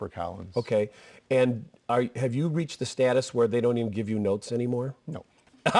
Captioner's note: laughter